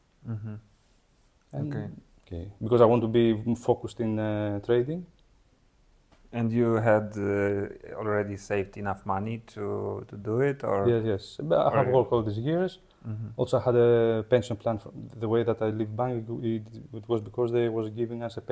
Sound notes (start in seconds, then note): none